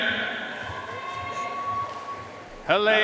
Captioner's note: audience cheering and applauding